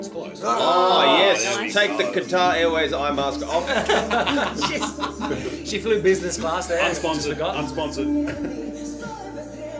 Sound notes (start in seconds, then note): 0.4 all exclaim